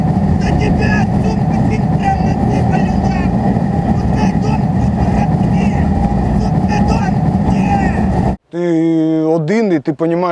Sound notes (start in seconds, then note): 0.5 shouting insults at the russians